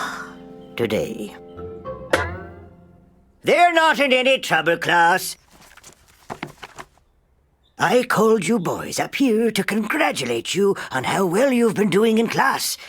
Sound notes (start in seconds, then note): 5.4 class shuffling